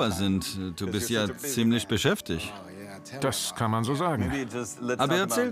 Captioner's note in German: englisch; englisch